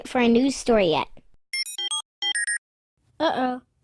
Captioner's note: more jealous beeps